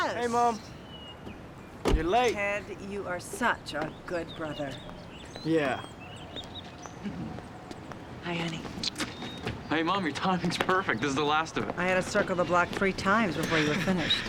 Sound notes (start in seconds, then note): 7.0 laughs